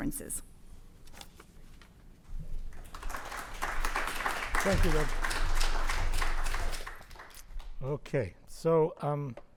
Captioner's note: applause